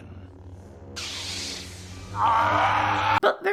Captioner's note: Lightsaber noise